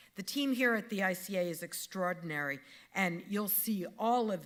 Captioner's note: none